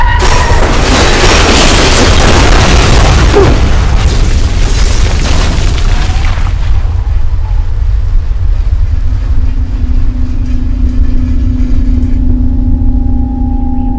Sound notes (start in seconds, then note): 0.1 metal crashes against metal; 4.2 crashing sounds end